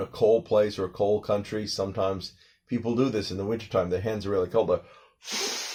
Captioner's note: blowing sounds